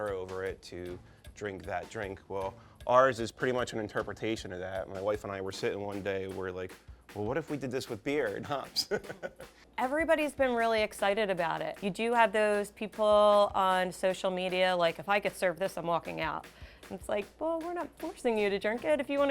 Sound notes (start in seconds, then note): 8.7 laughs